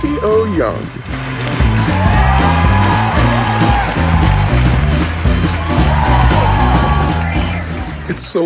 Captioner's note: cheering and applause